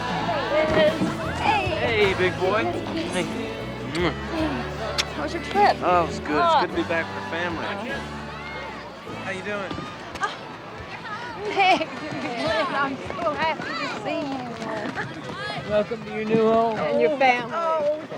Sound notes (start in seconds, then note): 4.9 lips smack